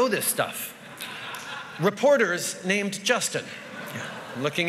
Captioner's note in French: Rires